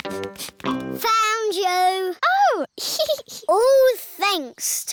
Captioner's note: giggles